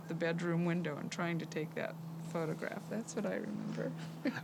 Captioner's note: chuckles